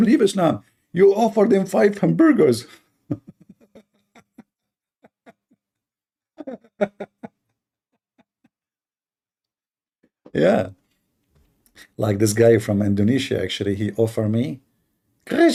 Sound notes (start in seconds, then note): 2.9 Ketawa